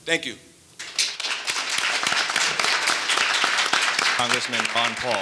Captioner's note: audience applauding